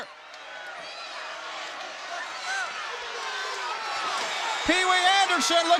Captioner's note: audience chattering